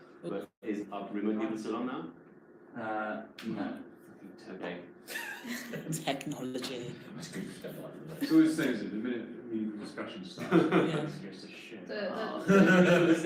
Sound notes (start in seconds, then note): 5.1 laughing; 7.6 employees murmur all at once